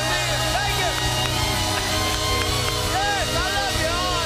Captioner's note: cheers and applause